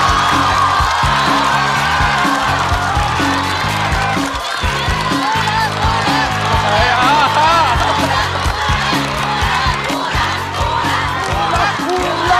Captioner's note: applause